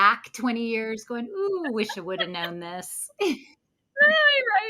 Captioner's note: both laughs